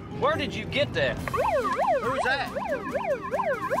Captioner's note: siren